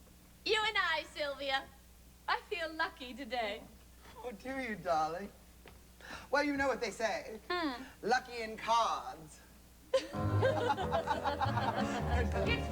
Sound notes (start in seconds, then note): 9.9 all giggle